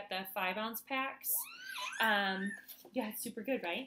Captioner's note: baby squeals